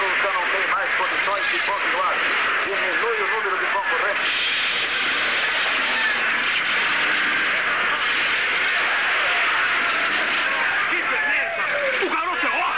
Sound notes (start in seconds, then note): 1.8 shouting; 4.0 hisses